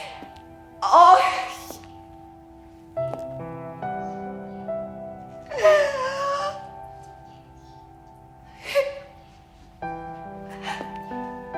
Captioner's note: crying